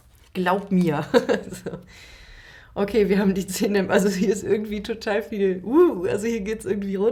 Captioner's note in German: gelächter